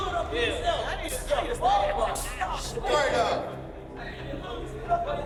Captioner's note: indistinct clamoring